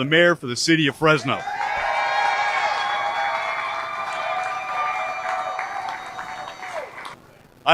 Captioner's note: cheers